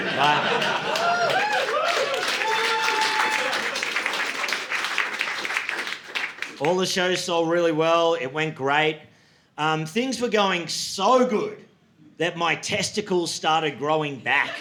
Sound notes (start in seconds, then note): 0.0 audience laughing; 0.0 audience cheering